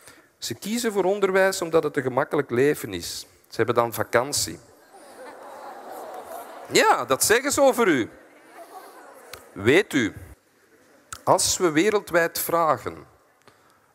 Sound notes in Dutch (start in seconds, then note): 4.8 het publiek lacht; 8.8 gelach